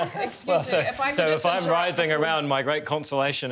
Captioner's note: laughs